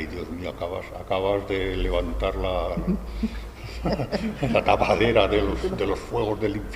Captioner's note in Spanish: risas